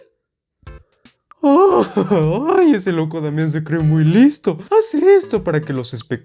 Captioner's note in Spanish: Se ríe